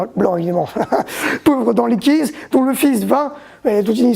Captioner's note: laughs